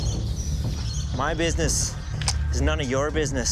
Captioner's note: pistol cocking